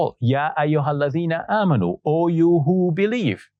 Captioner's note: speaking Arabic